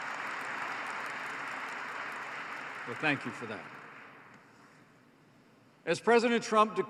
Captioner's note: applause